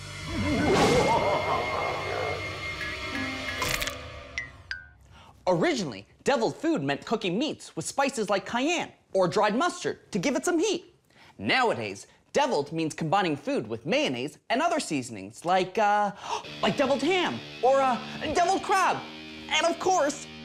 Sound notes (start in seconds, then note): 0.3 maniacal laugh; 4.2 cracks